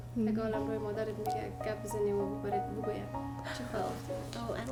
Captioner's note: woman speaks in a foreign language